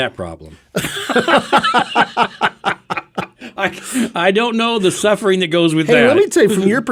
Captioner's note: laughing